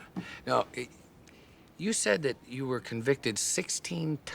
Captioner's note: chuckles